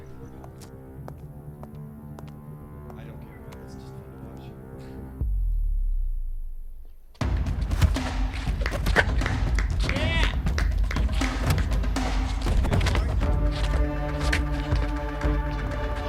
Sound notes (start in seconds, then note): 0.1 soft dramatic music; 7.5 upbeat dramatic music; 10.2 group cheering; 12.6 upbeat dramatic music